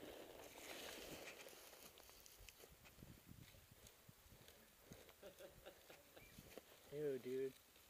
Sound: subtle laughter in background

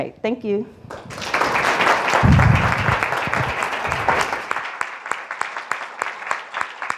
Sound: applause

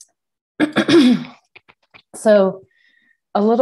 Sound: coughs

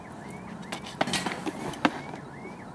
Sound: thud

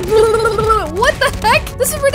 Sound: makes rapid punch sounds

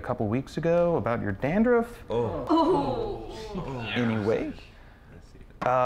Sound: gaps from other teens

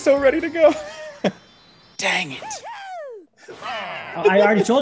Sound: laugh

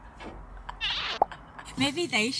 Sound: laughing; popping

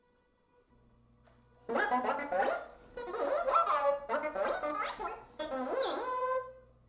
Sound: BB-8 talking

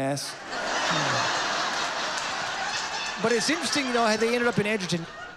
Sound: laughter

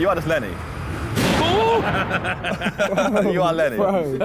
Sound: all laughing

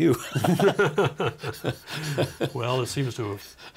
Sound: both laughing

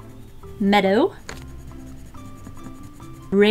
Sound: pencil scratching

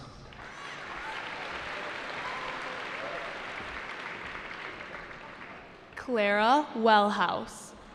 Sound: applause

